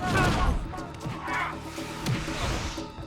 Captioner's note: commotion